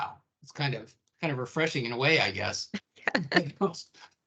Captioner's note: laughing